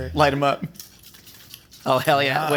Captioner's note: guns squirting